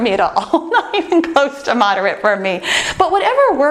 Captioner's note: laughs